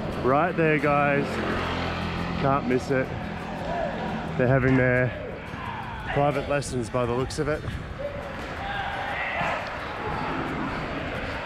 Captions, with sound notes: right there, guys. (motorbike revving) Can't miss it, they're having their private lessons by the looks of it. (yelling)